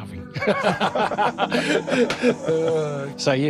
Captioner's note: both laughing